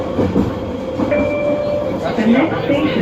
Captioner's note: Skytrain Chime